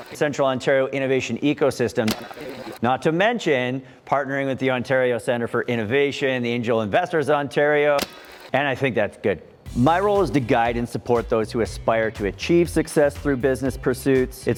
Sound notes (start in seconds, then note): 0.0 fast forward tape rolling; 2.0 fast forward tape rolling; 8.0 fast forward tape rolling